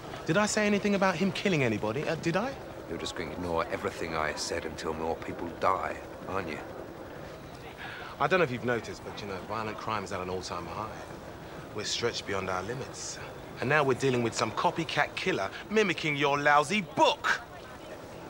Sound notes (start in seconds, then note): none